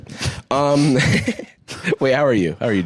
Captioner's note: laughs